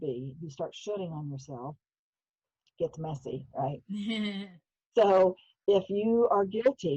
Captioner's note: laughing